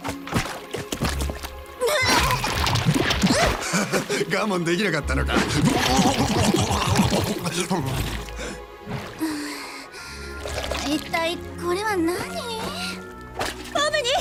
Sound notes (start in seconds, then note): 0.2 upbeat music plays; 5.4 laughs; 8.0 rattles lips